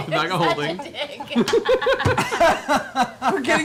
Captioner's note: laughter